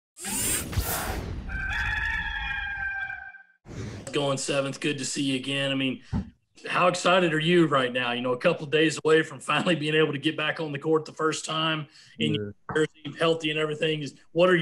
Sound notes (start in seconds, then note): 0.2 mechanical whirring; 1.4 cock crowing